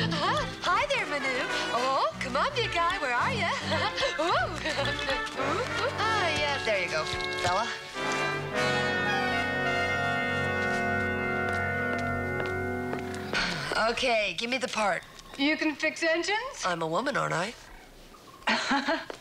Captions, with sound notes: Come catch me. [giggles] Hi, there, Man , comen, big guy, where are you? Whoa! Oh, yeah, there you go, fella. Okay, give me the part. You can fix engines?